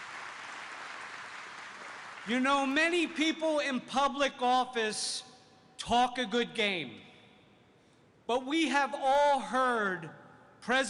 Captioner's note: applause